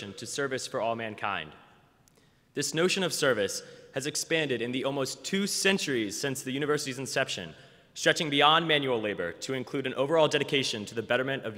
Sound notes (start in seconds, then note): none